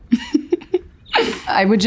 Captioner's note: giggles